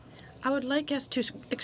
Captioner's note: speaking in French